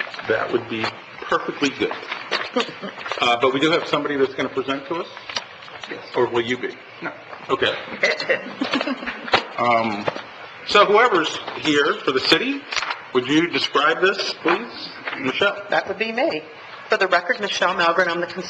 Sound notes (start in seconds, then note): 7.9 laughs